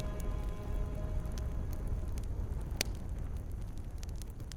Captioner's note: fire crackling